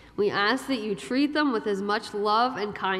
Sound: none

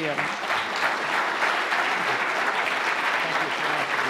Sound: applause

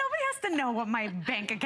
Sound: laughter

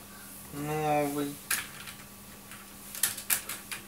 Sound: typing

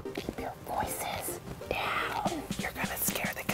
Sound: whispers

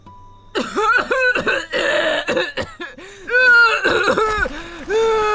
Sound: coughing

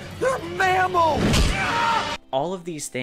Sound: screaming

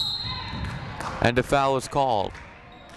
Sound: whistle blowing

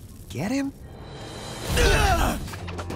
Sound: grunting

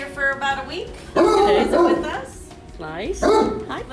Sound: dog barking

